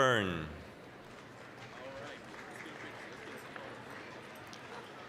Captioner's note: applause